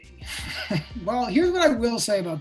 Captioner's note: laughs